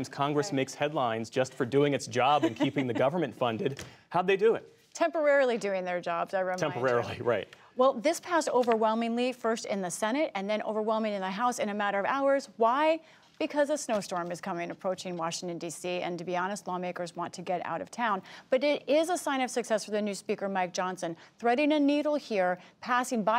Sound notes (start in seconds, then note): 2.3 laughter